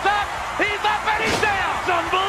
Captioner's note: body thuds